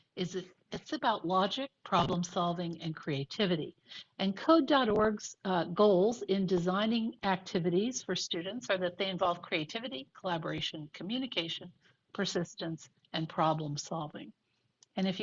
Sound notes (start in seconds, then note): none